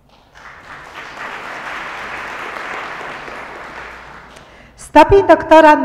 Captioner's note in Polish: oklaski